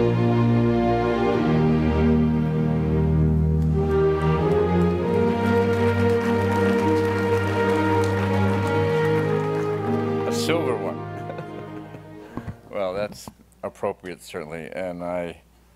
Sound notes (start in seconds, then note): 6.0 applause; 11.0 chuckles